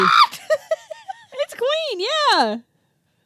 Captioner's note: laughing